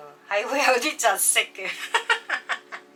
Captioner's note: laughs